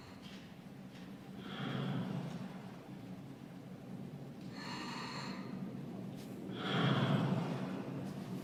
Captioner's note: slow breathing